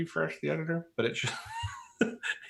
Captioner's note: laughs